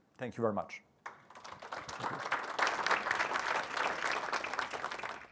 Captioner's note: applause